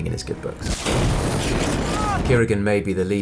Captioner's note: fire crackles